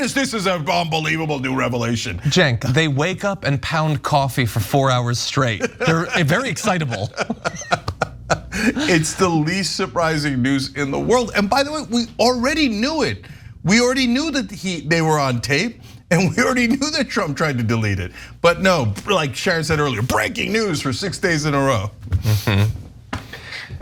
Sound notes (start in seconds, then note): 5.4 laugh